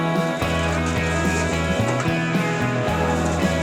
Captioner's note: ice Noise